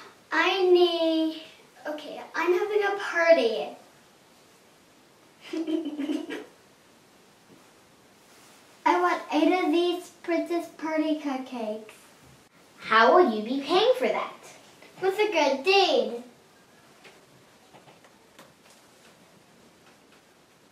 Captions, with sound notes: I need... okay... I'm having a party... [Giggle] I want eight of these princess party cupcakes How will you be paying for that? With a good deed